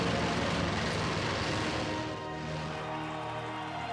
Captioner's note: cheering